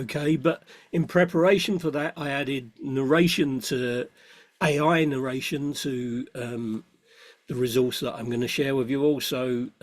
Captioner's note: AI narration